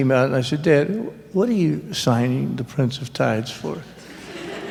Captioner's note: laughter